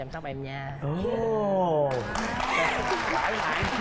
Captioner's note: applause